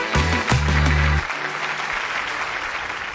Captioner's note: applause